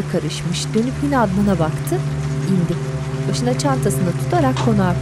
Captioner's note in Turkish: Yağmur sesi